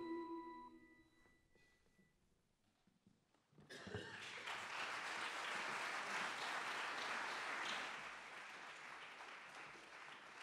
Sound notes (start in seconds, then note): 4.0 audience applauds